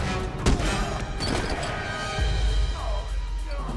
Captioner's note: punches smacking; kick thudding; Tory grunting